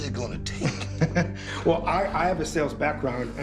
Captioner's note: chuckles